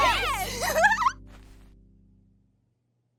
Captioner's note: giggling